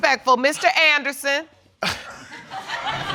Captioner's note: audience laughing